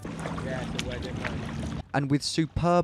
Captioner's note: boat sloshing